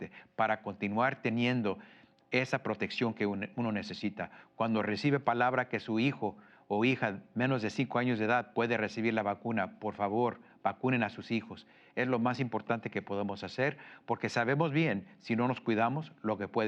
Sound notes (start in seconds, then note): 8.4 speaks Spanish